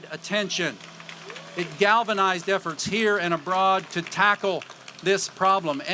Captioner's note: applause